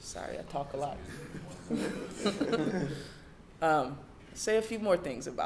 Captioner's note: laughing